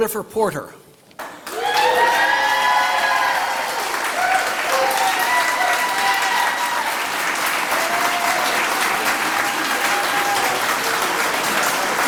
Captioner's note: applause